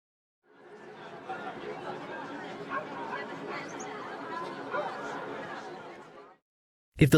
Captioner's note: busy Town Ambience